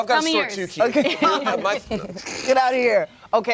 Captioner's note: laughter